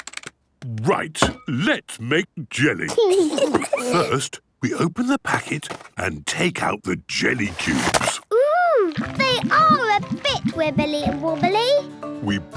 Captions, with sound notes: - Right! Let's make jelly! (giggles) First, we open the packet and take out the jelly cubes. - Ooh, they are a bit wibbly and wobbly.